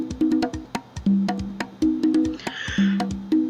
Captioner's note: mexican yawns